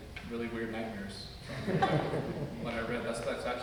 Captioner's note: audience laughs